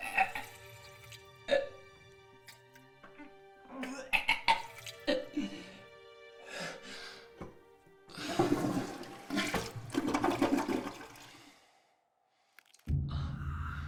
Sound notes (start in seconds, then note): 8.2 toilet flushing